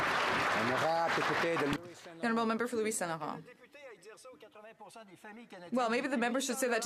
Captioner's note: some Applause